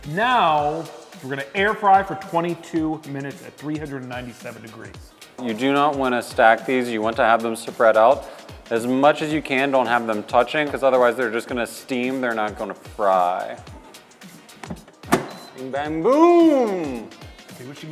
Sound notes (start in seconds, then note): 14.6 air fryer clunks; 15.1 air fryer beeps